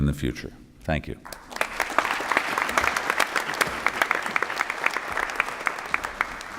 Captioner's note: applause